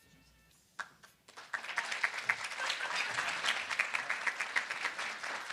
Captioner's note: audience applauding